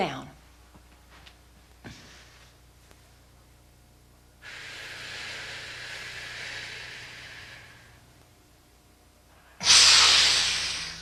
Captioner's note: breathing